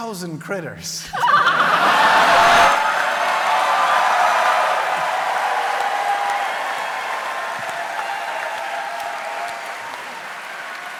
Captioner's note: cheering